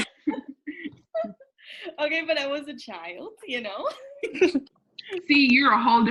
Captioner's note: laughter